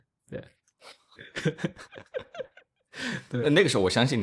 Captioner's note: laughs